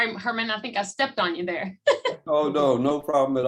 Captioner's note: laughter